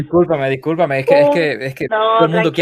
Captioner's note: laughs